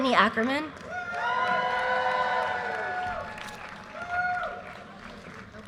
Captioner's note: audience cheers and applause